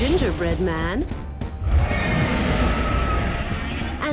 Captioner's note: roars